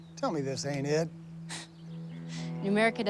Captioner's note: chuckling